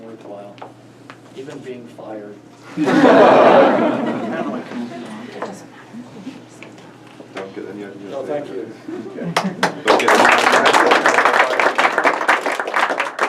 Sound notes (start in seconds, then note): 2.7 crowd laughs; 9.4 crowd applause